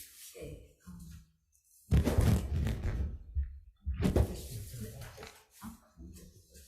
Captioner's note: audio distortion